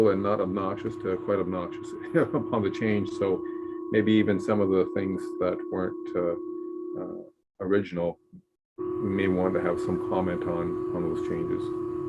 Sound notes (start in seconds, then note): 1.9 chuckles